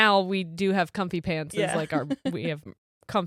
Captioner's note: giggles